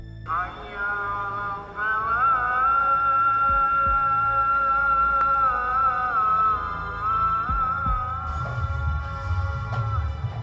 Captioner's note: muslim saying prayer